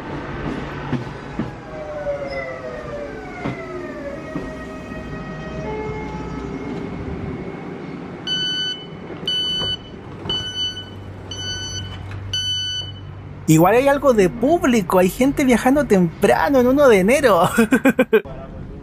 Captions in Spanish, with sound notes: (sonido apertura de puertas) Igual hay algo de público, gente viajando temprano el 1 de Enero jajaja.